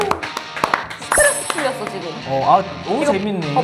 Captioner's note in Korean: 목을 가다듬음